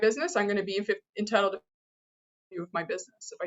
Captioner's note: audio drop